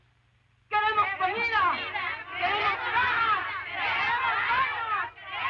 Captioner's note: women speaking Spanish